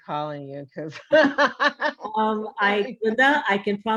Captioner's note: laughs